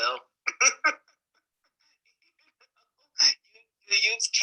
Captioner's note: man laughing